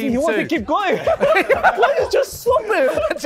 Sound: laughter

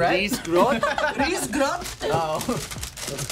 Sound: chuckles

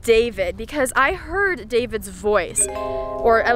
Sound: pleasant chimes

